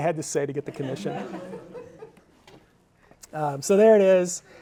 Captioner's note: audience laughing